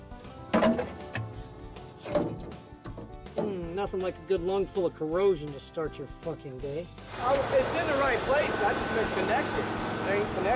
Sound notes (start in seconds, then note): 0.1 tool thunking